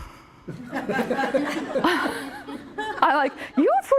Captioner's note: laughing